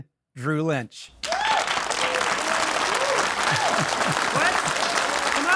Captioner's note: audience applauding; audience cheering